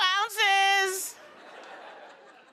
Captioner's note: laughter